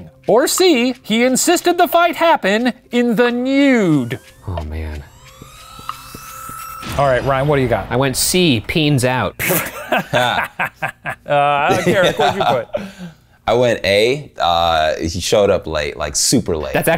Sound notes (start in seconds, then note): 9.5 professor laughing